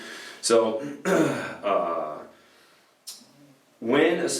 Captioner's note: clears throat